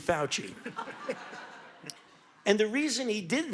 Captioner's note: audience laughing